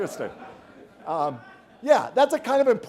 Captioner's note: laughter